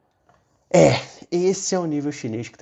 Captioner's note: clearing throat